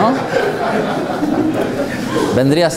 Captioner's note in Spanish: risas